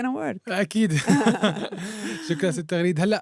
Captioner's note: both laughing